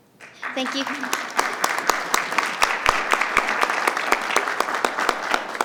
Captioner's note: audience applauding